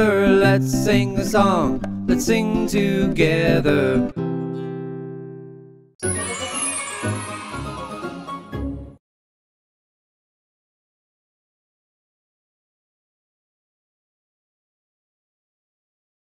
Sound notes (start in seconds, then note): 6.0 upbeat music; 6.0 children cheering